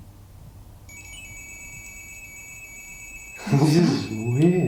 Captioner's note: beeping